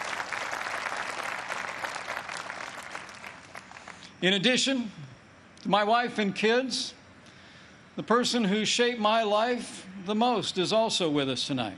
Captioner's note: applause